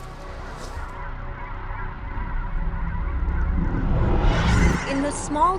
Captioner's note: scene whooshing